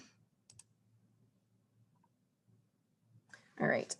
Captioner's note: mouse clicking